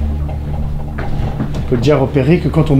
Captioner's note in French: Bruits de meubles tremblants